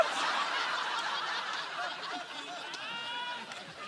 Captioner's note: laughter